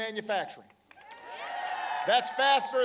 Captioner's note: applause